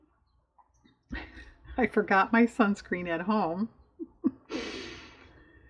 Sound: laughs

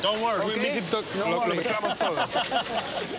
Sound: laughing

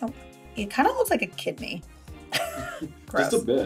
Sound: laughs

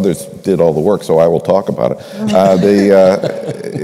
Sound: laughter

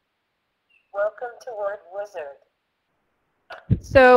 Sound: voiceover; voiceover

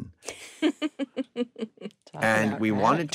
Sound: chuckling

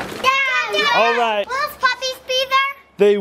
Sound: yelling

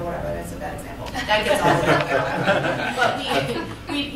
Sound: laughter

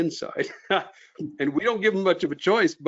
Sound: chuckles

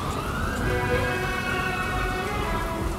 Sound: sirens playing; sombre music playing

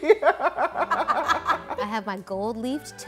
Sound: both laughing

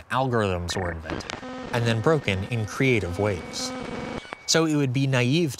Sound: beeping and buzzing

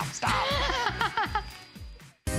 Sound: laughter

